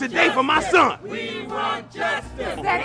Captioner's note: crowd